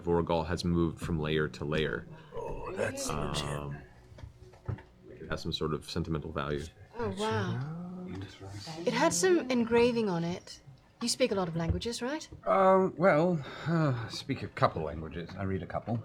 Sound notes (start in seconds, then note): 3.0 whispers